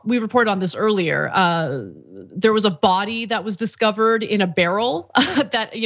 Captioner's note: laugh